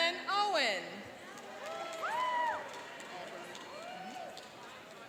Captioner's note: cheering and applauding